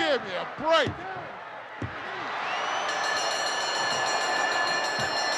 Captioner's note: bell ringing